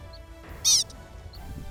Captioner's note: Pika call